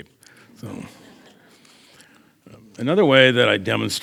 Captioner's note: audience chuckles